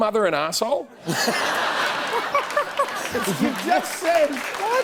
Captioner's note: laughter